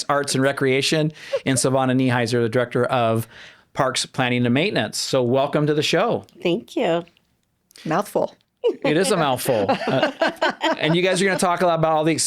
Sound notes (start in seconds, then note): 8.7 laughing